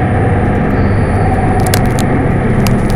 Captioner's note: bones cracking